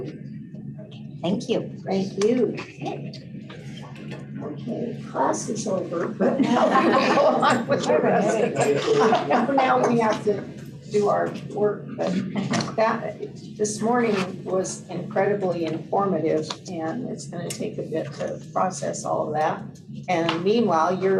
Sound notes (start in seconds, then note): 6.4 laughter